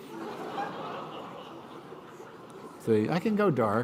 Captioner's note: laughter